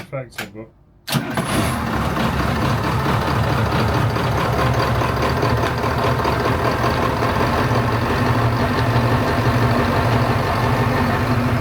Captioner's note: engine noise